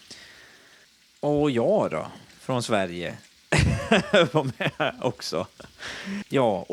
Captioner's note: laughter